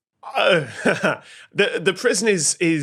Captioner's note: groan into chuckle